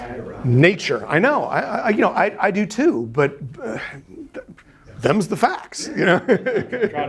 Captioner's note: laughing